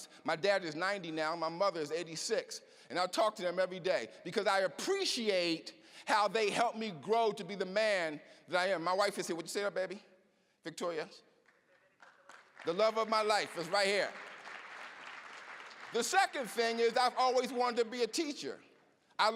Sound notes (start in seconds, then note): 14.1 applause